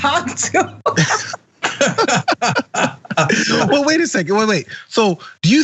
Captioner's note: laugh